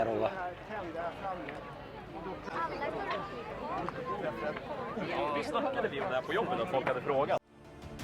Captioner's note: people speaking